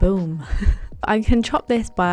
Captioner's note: laughs